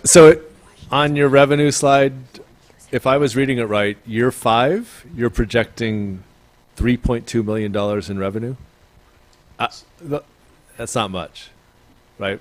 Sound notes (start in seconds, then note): none